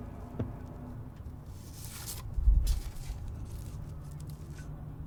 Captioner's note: pictures rustling